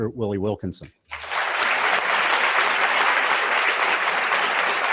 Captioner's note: students applauding